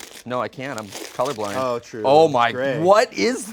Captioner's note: paper rustling